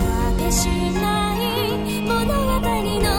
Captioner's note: none